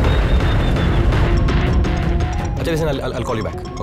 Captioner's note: Cellphone rings